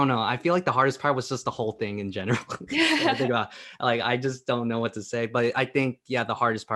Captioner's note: laughing